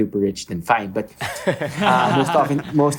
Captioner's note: laughing